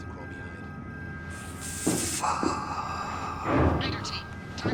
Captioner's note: murmurs